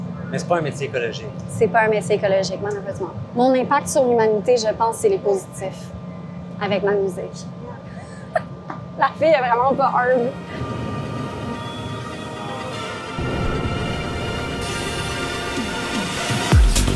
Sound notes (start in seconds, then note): 7.7 laughs